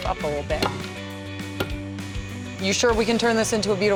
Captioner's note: hammering